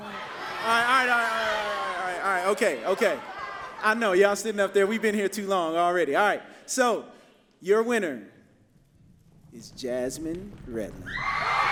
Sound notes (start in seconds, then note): 0.0 angrier crowd noises